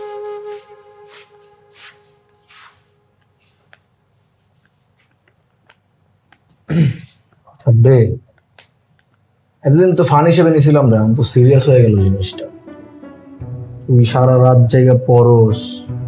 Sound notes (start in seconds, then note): 6.6 clear throats